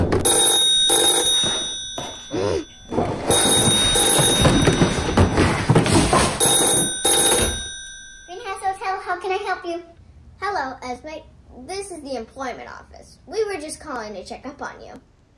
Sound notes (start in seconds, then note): 0.0 loud thuds; 0.2 loud ringing; 2.9 loud ringing